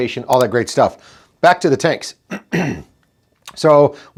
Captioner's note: throat clearing